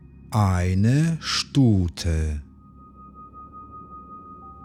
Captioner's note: german